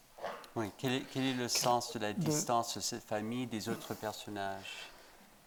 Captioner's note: speaking in French